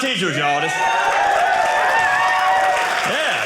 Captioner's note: audience cheering